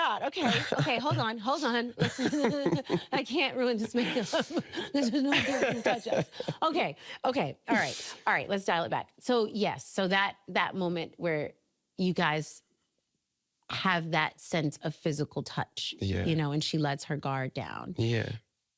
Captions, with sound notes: Oh, my God, okay. Okay, hold on. Hold on. -[laughing] -I can't ruin this makeup. There's no one here to do touch-ups. Okay. Okay. Alright. Alright, let's dial it back. So, yes, so that, that moment where you guys... have that sense of physical touch. -Yeah. -You know, and she lets her guard down.